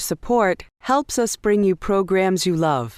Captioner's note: voiceover